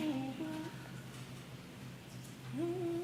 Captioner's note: humming